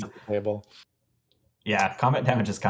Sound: laughs

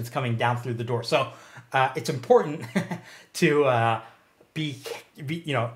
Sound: chuckles

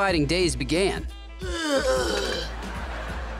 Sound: grunting

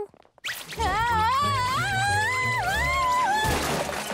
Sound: screaming

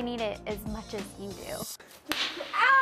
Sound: crack

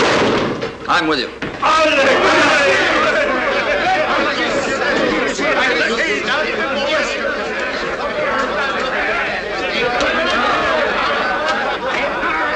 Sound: loud enthusiastic acclaim

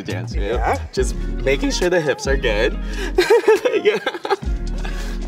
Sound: laughs; laughs

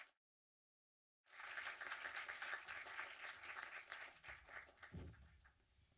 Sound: audience applause

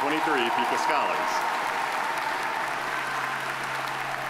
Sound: audience applauding

